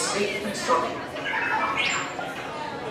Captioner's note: R2-D2 beeping